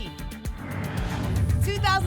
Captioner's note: whoosh